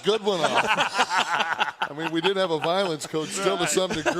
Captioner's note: laugh